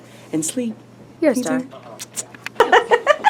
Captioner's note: kisses